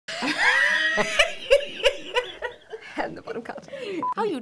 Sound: laughing

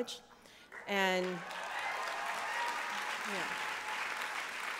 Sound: applause

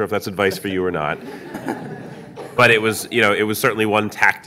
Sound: audience laughing

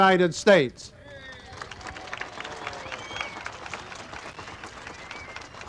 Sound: crowd applauding and cheering

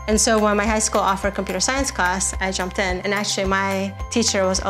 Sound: none

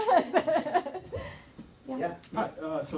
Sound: laughing

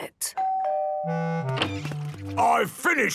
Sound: doorbell dinging

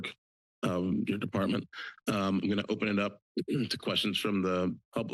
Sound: clears throat

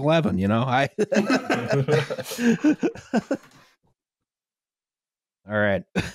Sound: laughter

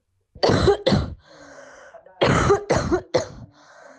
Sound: coughing with breaths in between

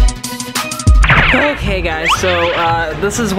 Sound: cartoon spring

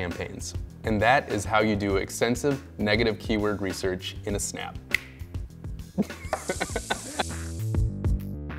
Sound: laughs

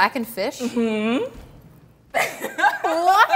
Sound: laughs loudly

